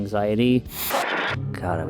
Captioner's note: static